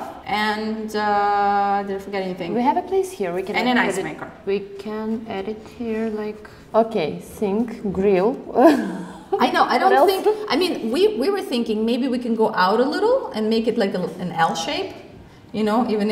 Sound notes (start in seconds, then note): 8.8 laughs